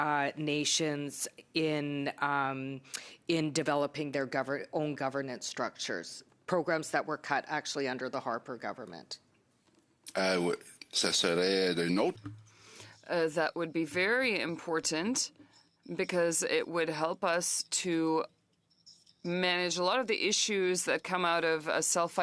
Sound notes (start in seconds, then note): 15.9 speaking French